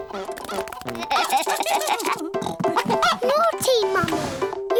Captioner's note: giggling